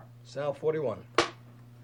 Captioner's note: clap